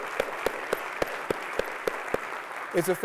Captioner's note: applause